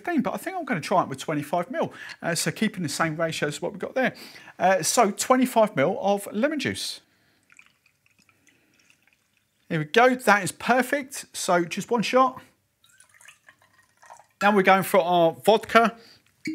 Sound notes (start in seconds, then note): 7.4 squeezing lemon; 12.8 pouring liquid